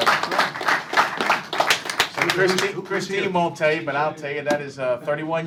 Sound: cheers and applause

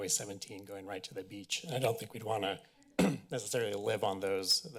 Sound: clears throat

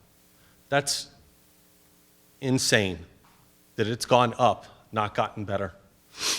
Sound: sniffs

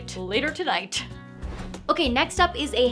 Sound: air whooshing

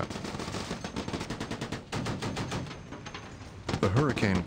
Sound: rapid gunfire

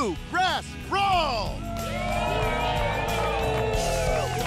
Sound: cheering

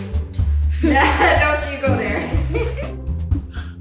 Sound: laughs

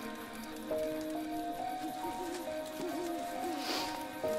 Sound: leaves rustling

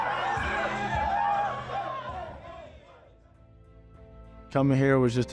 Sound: team celebrating

